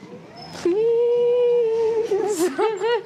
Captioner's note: whines